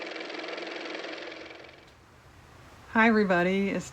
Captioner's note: car motor